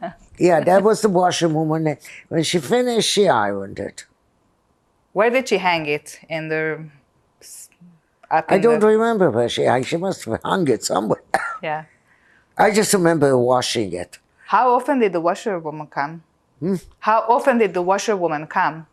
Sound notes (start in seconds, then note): 10.4 coughing